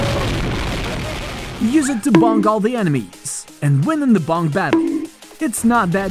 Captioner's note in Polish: bonk